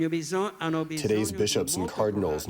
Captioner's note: through translator